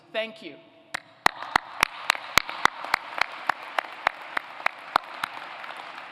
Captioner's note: applause